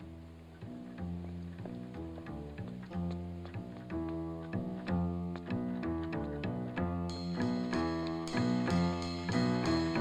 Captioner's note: suspenseful jazz music; brisk footsteps; suspenseful jazz music